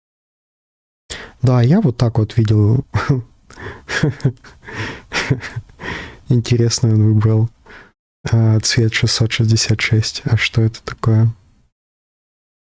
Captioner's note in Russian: смех